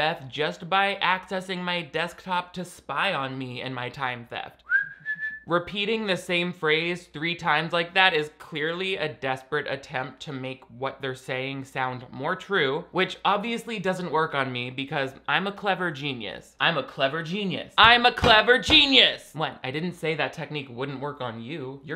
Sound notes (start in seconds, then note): 4.6 whistling; 17.6 pounding fists